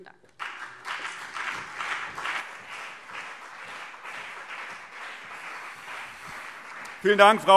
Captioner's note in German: Beifall CDU und BÜNDNIS 90/DIE GRÜNEN